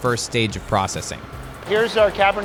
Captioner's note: truck engine roaring